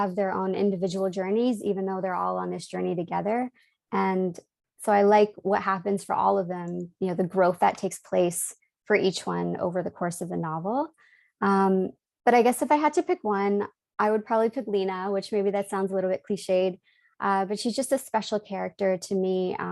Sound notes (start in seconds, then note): none